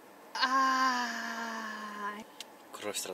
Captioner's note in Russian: крики